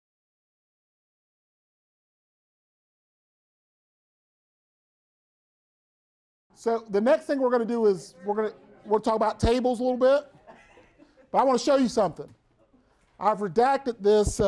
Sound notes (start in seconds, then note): 0.2 break: brief silence; 10.0 students talking and laughing in the background